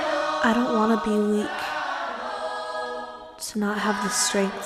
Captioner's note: voiceover